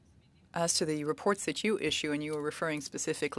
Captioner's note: speaking French